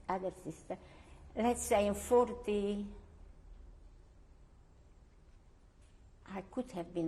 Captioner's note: pauses for 3 seconds